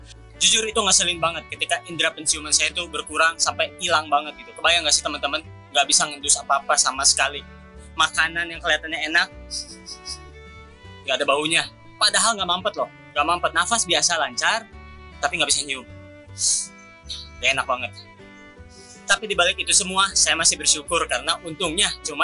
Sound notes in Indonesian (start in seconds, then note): 9.5 sniff sniff